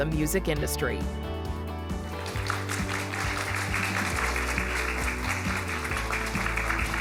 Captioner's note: upbeat music; applause